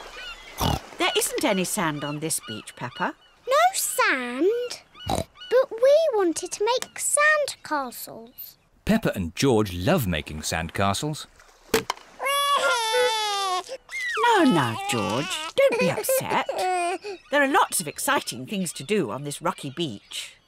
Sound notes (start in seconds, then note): 12.2 wailing